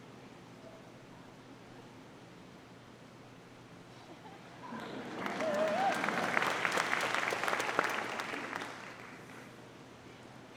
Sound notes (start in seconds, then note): 6.8 audience applauding